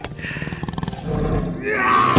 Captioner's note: growls